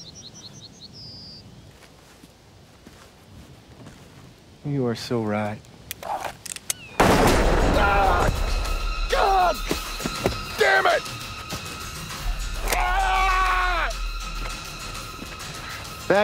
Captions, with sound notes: - You are so right. (gun fires) (groaning in pain) - Goddammit!